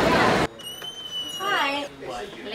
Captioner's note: door opening